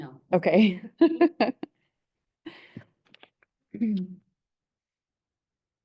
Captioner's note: laughs